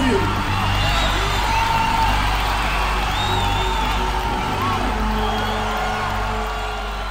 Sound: audience cheering loudly continues

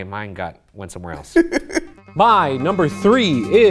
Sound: laughs; suspenseful music

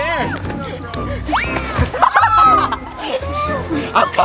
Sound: laughing

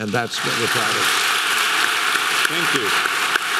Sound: audience clapping

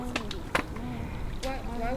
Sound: water sounds

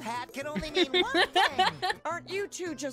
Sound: laughter

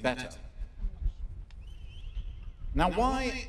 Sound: whistle

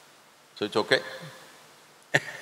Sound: laughs

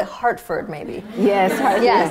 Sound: laughter

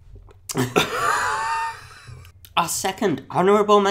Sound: both laugh

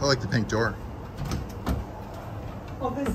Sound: door clicks

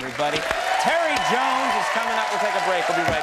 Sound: audience clapping

